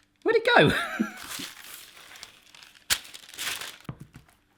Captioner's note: laughs